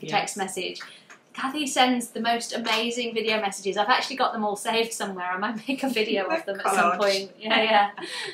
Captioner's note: laughs